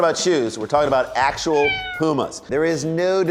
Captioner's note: meow